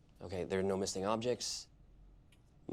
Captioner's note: none